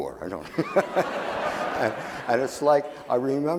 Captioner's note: audience laughing